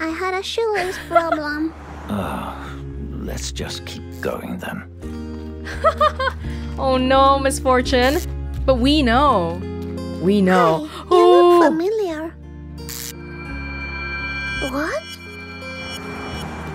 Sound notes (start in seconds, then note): 0.8 chuckles; 5.7 chuckles